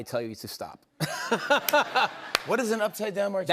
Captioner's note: laughter